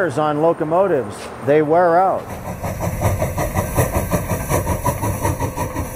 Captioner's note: locomotive chugging